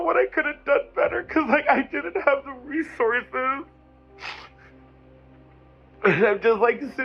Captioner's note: sniffles